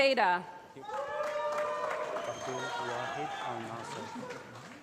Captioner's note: applause